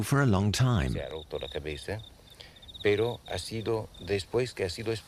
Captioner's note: Spanish spoken audio